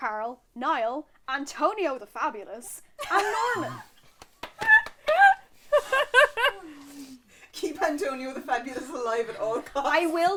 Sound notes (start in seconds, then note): 4.0 laughter